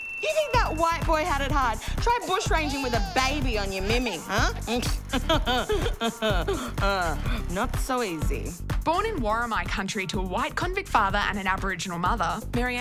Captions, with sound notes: You think that white boy had it hard? Try bushranging with a baby on your mimi, huh. (pfft) (laughs) Not so easy. Born in Worimi country to a white convict father and an Aboriginal mother